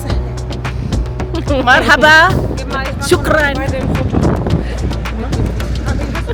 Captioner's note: laugh